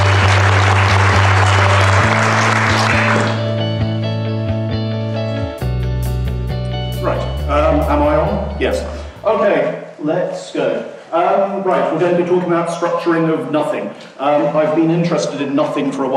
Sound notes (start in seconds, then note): 0.0 applause; 8.7 voiceover